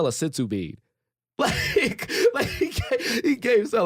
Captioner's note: chuckling